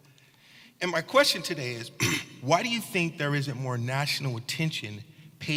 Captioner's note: cough